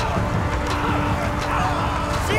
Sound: screaming

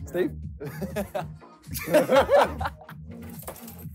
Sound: both laughing

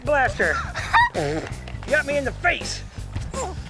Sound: sputters

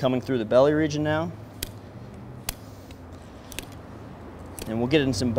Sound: knife scrapping bones

